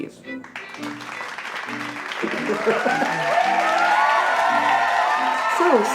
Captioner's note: applause